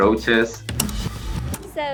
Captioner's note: VCR tape rewinds